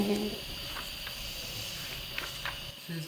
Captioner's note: chuckle